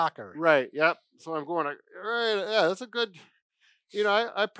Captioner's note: grunts